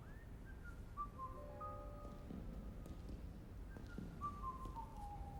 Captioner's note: Henderson whistling